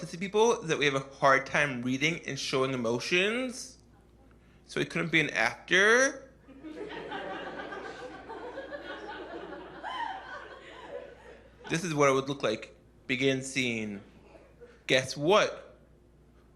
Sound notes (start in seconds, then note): 6.5 laughter